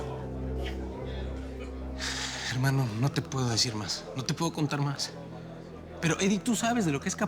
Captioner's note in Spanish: bullicio del lugar